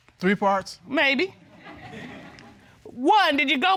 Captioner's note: audience chuckling